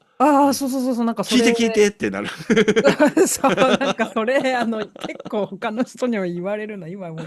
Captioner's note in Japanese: 笑い